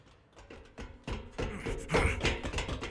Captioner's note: panting